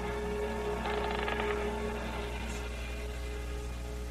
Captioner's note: creaking